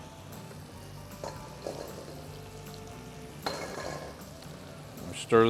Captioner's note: dishes clattering